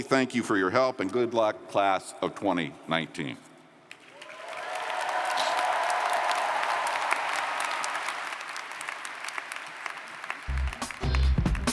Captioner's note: cheers & Applause